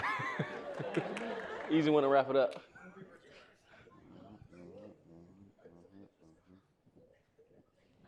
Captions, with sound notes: (all laughing) - Easy one to wrap it up. (audience chatter)